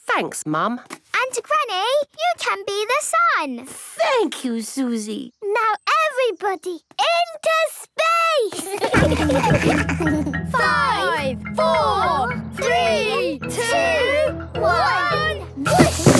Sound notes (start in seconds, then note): 8.5 laughter